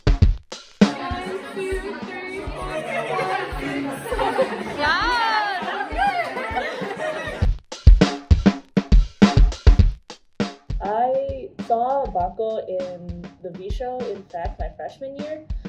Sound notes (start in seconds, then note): 4.4 laughs; 7.5 chill upbeat music